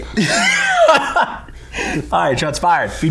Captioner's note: laughing